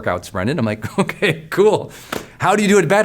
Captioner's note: laughs